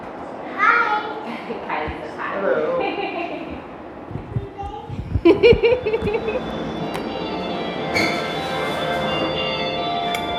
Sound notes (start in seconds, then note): 2.6 laughing; 5.2 lady Laughing; 6.4 ring tone music